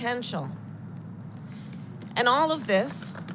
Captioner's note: applause